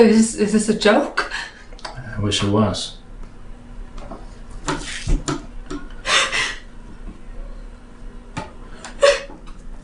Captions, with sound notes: Is this a joke? - I wish it was. (crying)